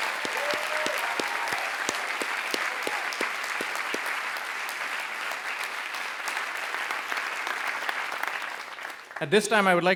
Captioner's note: applause